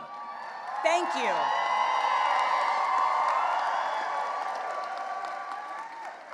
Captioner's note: cheering and applause